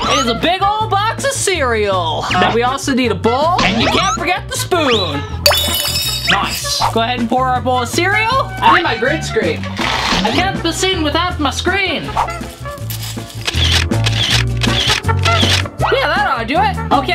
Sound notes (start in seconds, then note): 14.9 camera shutter fires